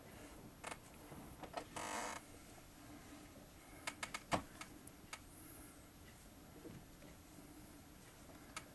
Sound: chair creaking

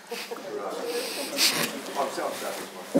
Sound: laughing

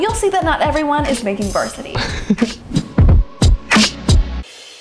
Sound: laughs

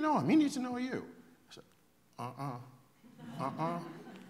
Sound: laughter

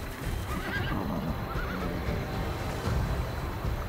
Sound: horses neigh

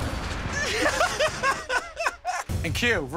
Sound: laughter

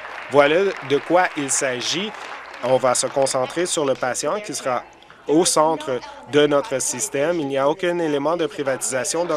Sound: applause

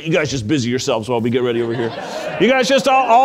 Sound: audience laughing

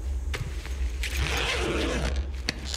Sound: suitcase zip opens

